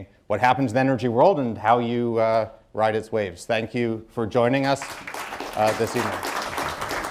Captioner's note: applause